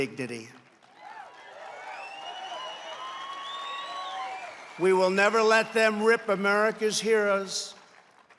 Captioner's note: applause